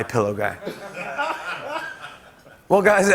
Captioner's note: laughter